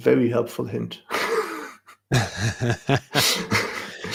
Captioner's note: laughter